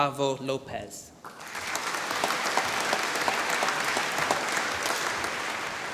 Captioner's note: applause